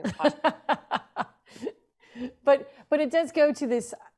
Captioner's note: laughs